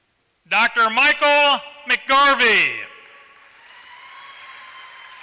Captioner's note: applause